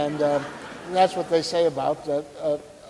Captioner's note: audience laughing